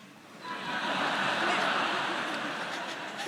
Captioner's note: all laughing